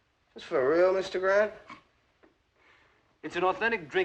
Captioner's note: Griff Snorts